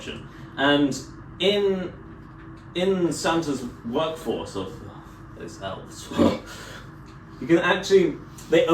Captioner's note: ugh